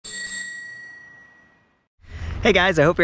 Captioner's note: bell ringing